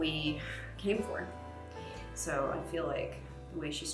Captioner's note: sighs